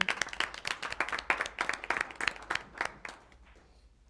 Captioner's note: applause